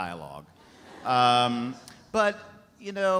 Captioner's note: audience laughs